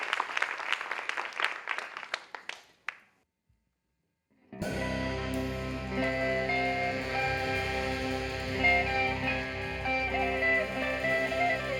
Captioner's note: applause